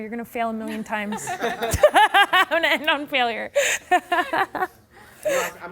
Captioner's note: laughing